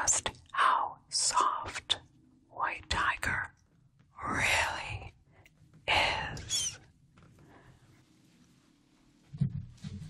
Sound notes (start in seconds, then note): none